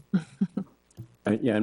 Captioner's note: board member chuckling